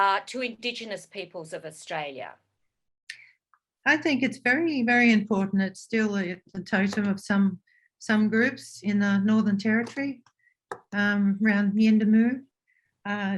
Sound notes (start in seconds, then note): none